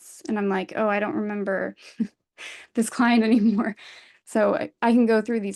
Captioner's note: chuckles